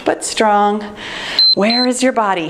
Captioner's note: timer beeping